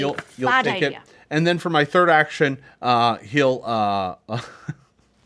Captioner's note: snickers